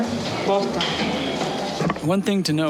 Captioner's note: speaking In Foreign Language